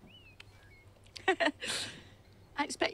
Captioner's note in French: des rires